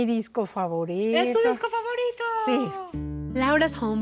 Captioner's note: speaking Spanish